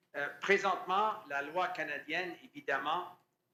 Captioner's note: speaking french